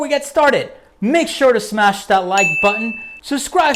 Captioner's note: bell chimes